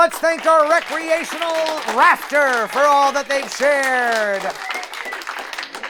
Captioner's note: cue applause